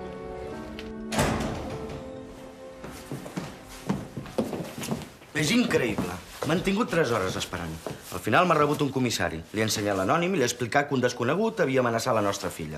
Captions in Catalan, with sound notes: (soroll porta) M'han tingut 3 hores esperant! He ensenyat l'anònim al comissari i li he dit que han amenaçat la Renée.